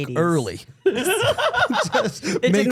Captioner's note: Steph laughing